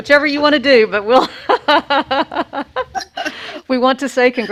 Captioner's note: laughing